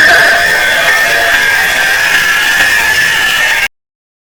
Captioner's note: vocal cords ripping noise's